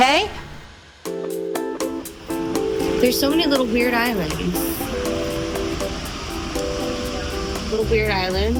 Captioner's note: hoots